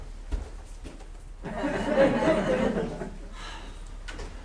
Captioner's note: laughter